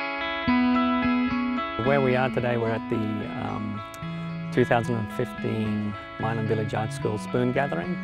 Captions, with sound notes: - [Voiceover] Where we are today, we're at the 2015 Milan Village Arts School Spoon Gathering